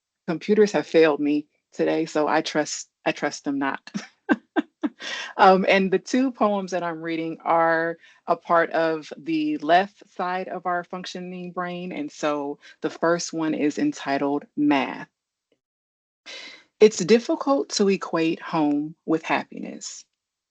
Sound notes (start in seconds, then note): 3.9 chuckles